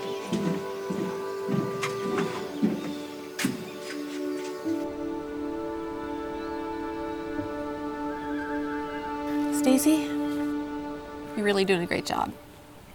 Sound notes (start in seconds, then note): 2.8 birds chirping; 8.4 horse neighing